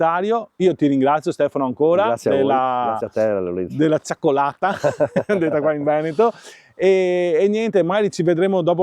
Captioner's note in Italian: risate